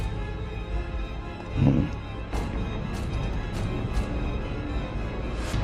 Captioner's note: hmm